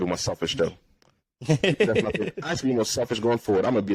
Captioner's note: laughs